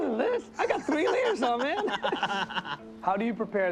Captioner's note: laughs